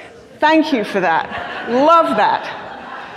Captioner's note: crowd laughing